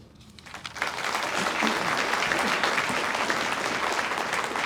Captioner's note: audience applauds